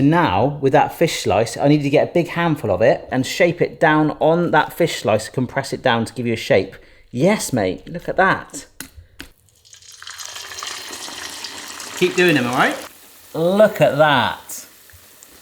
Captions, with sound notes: So now with that fish slice, I need to get a big handful of it and shape it down on that fish slice, compress it down to give you a shape. Yes, mate, look at that. (sizzling sound) Keep doing them, all right? Look at that.